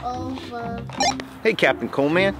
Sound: walkie talkie beeps

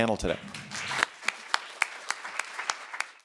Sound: applauds

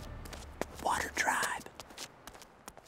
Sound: whispering

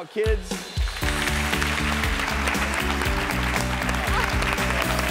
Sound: audience clapping

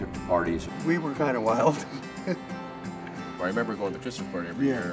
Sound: laughs

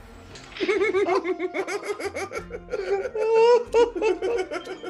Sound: laugh

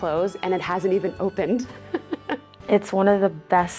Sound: chuckles

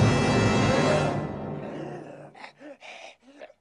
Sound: gasping

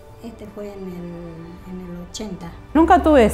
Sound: mother talking

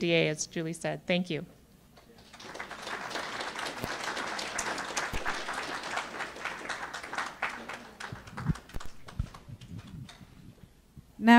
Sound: clapping

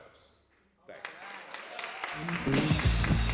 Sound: applause

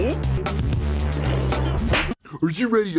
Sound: gulp!; sip; slap!

